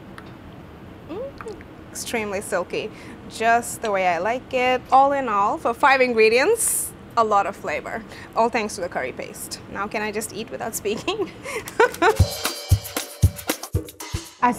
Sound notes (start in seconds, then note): 10.8 laughing; 11.8 upbeat music